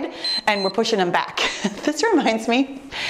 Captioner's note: timer beeps